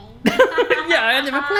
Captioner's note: laughing